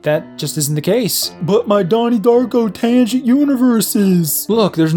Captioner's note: mockingly